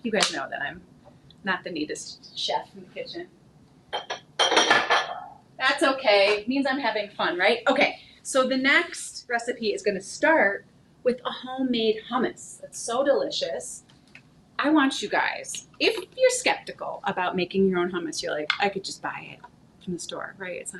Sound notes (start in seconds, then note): 3.9 dishes clattering